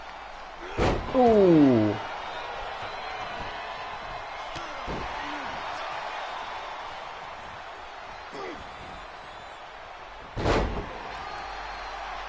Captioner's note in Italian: Applauso